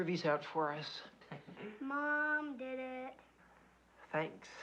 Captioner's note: sing-song voice